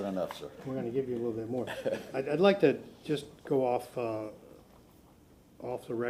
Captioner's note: laughter